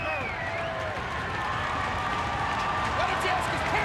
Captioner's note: crowd cheering